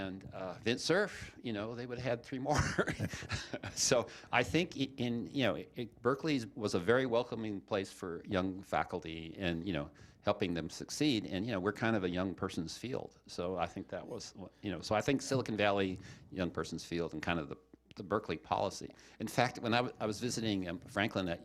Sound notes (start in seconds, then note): 2.5 chuckling